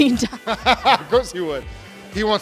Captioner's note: laughing